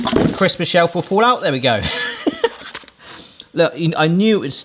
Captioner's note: laughs